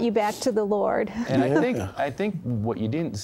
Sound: giggles

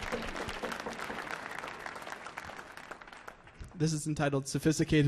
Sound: applause

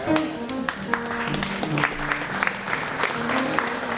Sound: applause

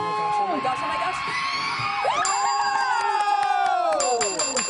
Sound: cheering

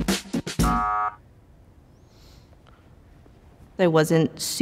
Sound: buzzer rings

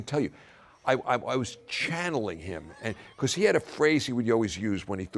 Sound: laugh

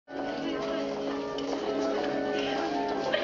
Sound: crowd chatters

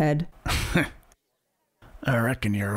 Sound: chuckles

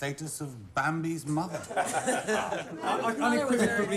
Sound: laughing

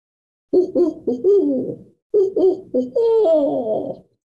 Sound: instructor making owl sounds

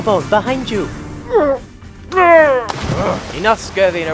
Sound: grunts, water splash

